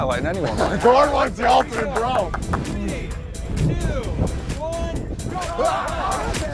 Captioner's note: clapping